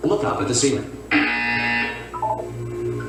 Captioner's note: buzzer sounds